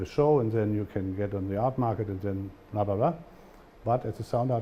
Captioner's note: german